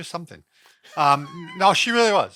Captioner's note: laughs